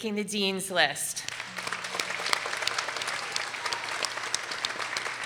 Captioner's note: people applauding